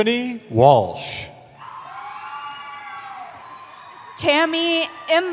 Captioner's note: cheering